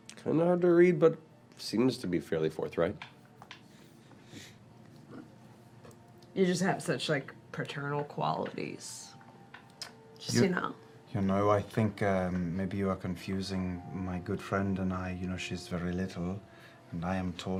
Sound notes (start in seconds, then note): none